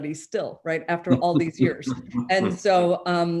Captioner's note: chuckles